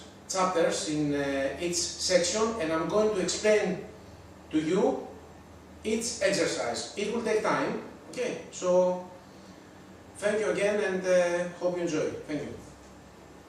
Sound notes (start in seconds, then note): none